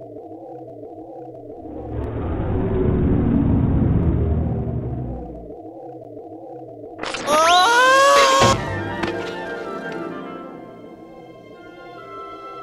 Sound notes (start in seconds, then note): 7.0 Mask shaking, Pooh screaming; 8.2 hitting floor